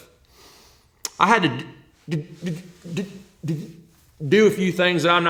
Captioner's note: stuttering